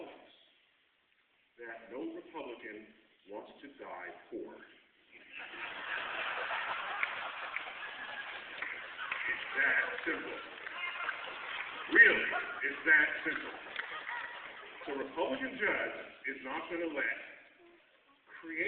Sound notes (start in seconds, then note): 6.3 laughter